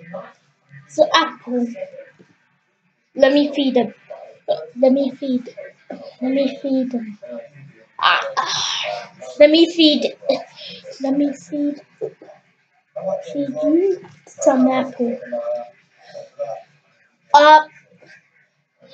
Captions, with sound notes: the Apple let me feed them *Eating* Let me feed them